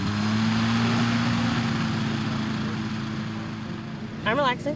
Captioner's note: glider engine revving